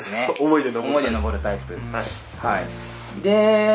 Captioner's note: laughs